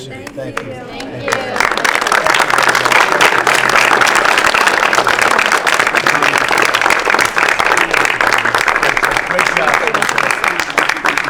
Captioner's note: applause